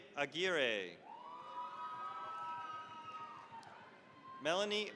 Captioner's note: cheering, applause